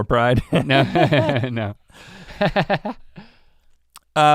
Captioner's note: chuckles